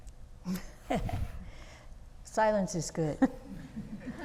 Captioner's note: laughs